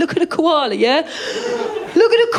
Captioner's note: laughter